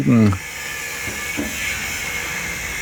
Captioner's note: whirring